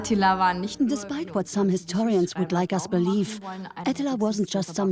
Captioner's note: in German; dubbed in English